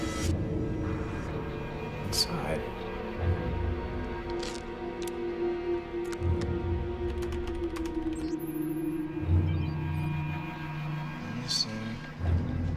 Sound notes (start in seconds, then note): 7.1 keyboard clacking